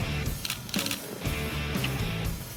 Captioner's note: upbeat music; camera shutter clicking